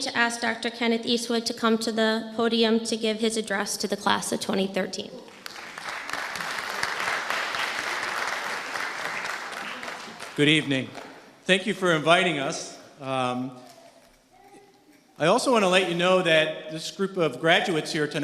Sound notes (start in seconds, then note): 5.3 audience applauding